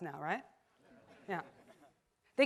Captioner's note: audience laughs